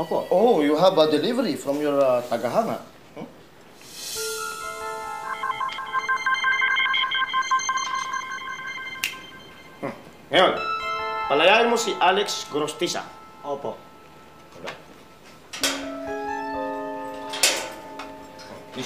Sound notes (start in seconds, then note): 4.2 suspenseful music plays; 4.2 phone beeping; 9.7 chuckles